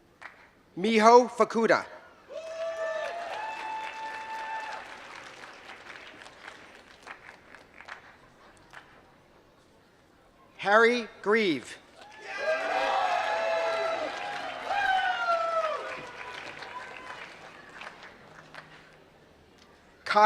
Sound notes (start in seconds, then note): 0.0 applause; 6.4 applause; 16.1 applause